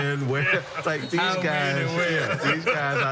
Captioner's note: laughter